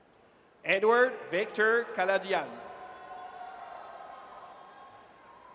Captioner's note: audience cheers